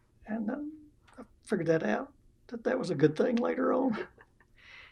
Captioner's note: laughs